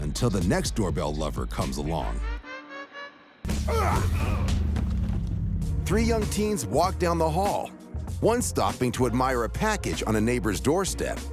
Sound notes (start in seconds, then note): 3.6 grunting, blows landing